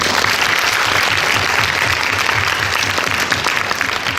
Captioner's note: applause